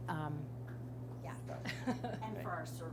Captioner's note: chuckles